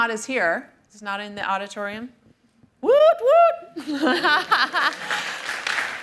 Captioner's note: cheers and applause